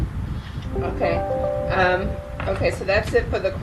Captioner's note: comp notification bell rings